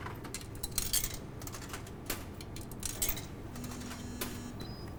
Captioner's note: coffee machines motor